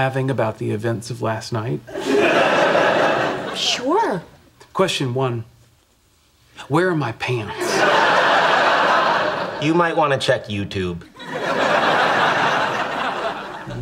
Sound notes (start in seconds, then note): 1.9 audience laughing; 7.4 audience laughing